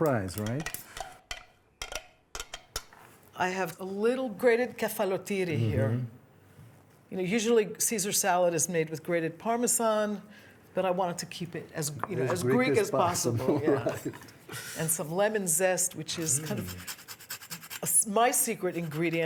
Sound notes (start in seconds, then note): 1.2 scraping